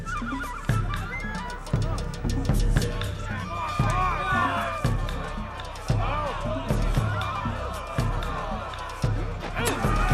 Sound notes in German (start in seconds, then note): 5.0 Geschrei; 5.8 Aufgeregtes Geschrei